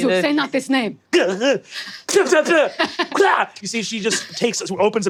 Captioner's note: mimics spitting